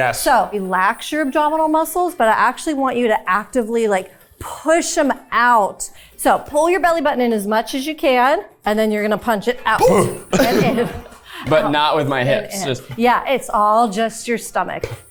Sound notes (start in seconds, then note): 9.8 chuckling; 10.8 mumbling